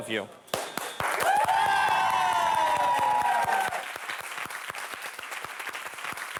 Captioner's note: clapping; audience cheering